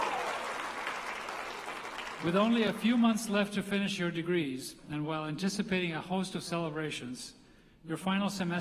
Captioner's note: applause